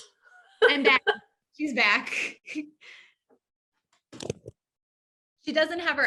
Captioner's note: chuckling